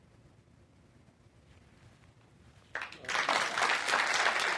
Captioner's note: applause